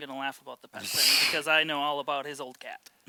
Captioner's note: scoffs